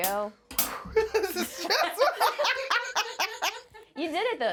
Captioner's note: laughing